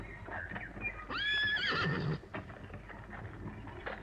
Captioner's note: horse neighs